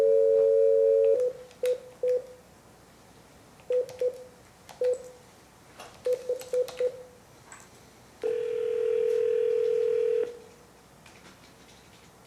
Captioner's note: dialing and phone ringing noises